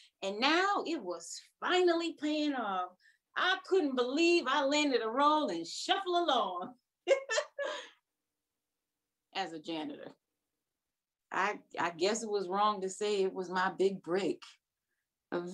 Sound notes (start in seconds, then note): 7.1 chuckles